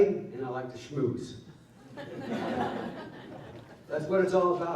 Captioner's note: laughter